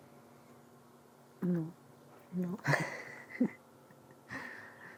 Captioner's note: laughs